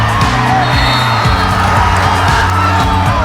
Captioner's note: crowd cheering; whistle blows; crowd cheering